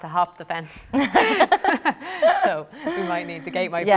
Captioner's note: laughter